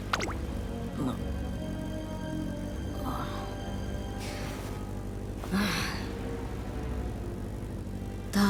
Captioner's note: sigh